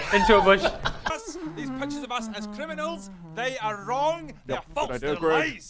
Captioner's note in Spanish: Tarareo totalmente inocente